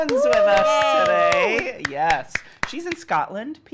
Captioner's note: cheers; clapping